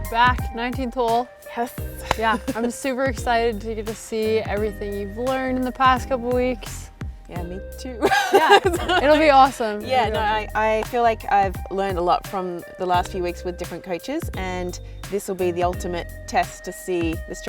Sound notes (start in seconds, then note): 8.0 laughs